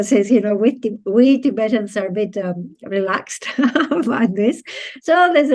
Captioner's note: laughs